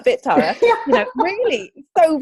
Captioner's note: laughs